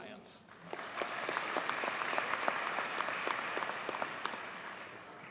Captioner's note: audience cheers and applauds